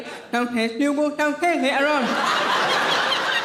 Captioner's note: audience laughing